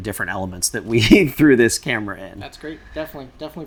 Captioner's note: laughs